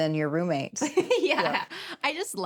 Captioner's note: chuckles